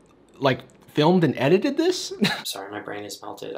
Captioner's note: laughs